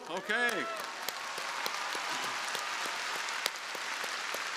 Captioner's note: crowd applauding